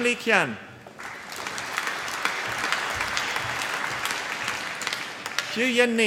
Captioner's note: applause